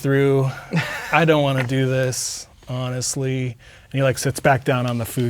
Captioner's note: laughing